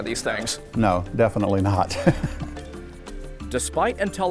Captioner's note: chuckles